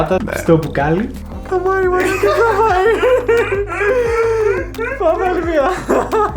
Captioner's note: random sounds of excitement